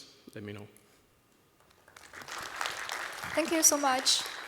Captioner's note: applause